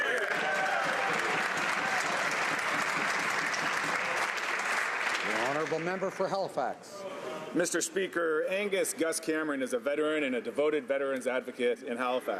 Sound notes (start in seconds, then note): 3.0 some Applause